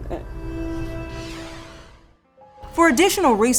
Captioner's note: swoosh effect